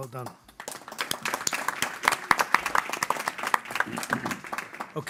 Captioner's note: audience applauding